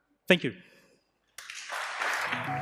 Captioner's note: applause